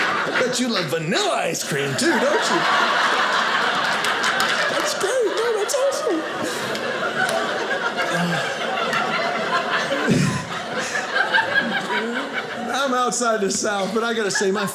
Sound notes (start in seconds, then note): 2.7 audience laughing; 6.8 audience laughing